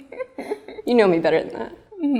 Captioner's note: laughing